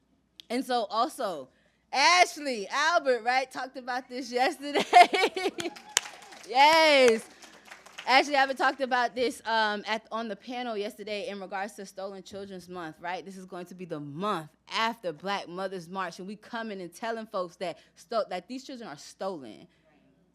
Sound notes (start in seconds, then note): 4.6 laughs